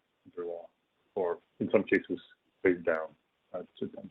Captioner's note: audio glitch